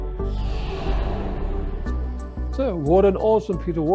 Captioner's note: air whooshing